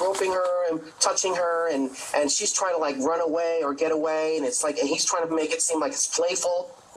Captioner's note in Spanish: hablan en ingés